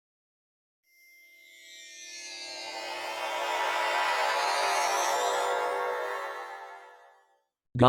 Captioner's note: teleporter noise